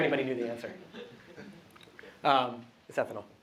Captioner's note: laughter